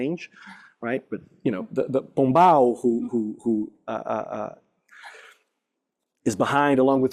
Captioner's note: non-english speech